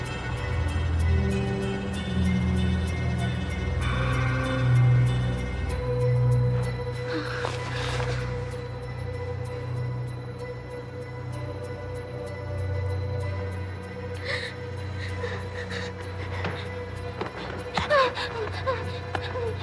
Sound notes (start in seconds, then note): 7.0 Marlee sighs; 8.6 eerie, vaguely menacing orchestral music; 14.4 Marlee gasping and whimpering over tense orchestral music